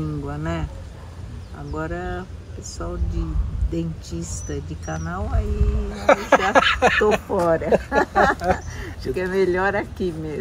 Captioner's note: laughs